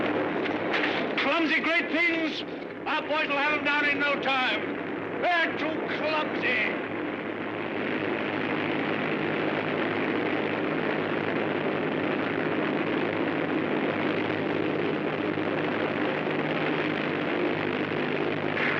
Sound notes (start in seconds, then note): 7.0 aircraft rumbling